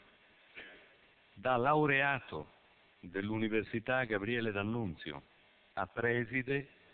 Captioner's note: Italian